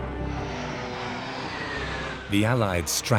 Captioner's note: planes whir